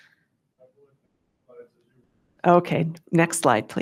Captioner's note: staff member speaking faintly